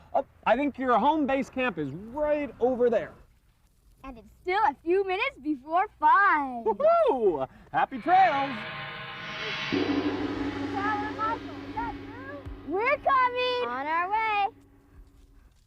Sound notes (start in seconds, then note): 7.8 gong